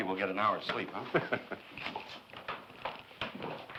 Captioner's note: laughs